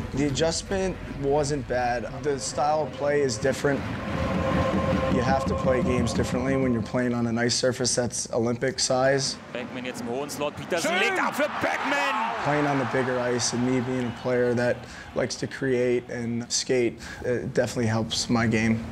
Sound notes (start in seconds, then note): 0.0 crowd Cheering; 9.5 sportscaster Speaking German